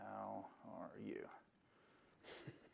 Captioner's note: laughter